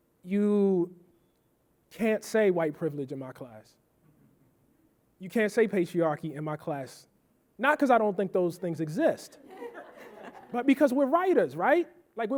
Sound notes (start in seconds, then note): 9.4 audience laughing